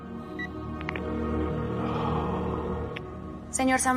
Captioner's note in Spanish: Suena la otra línea